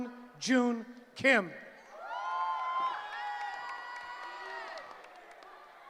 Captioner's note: cheering